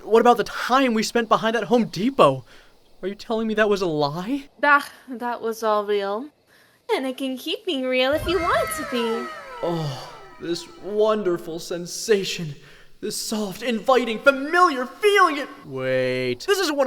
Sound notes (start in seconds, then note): 7.0 normal tone